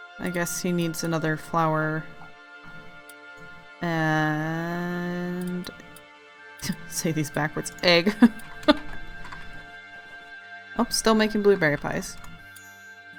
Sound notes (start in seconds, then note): 4.0 small laugh; 8.0 laughs